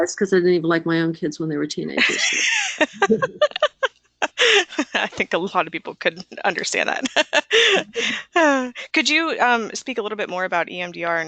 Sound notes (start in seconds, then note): 2.0 laughing